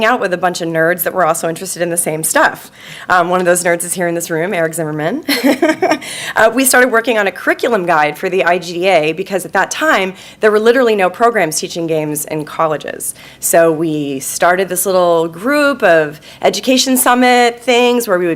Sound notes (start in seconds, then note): 5.3 laughing